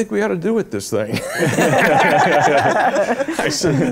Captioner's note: laughter